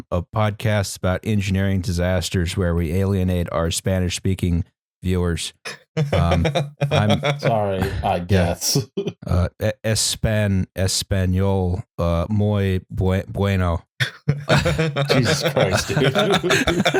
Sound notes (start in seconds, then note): 5.7 chuckles; 10.8 haltingly; 14.0 laughs; 16.8 laughter